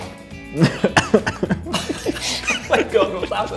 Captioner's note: coughs